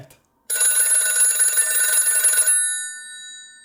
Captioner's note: telephone ringing